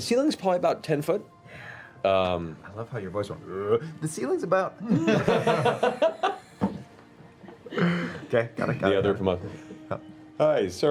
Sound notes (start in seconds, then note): 4.5 low voice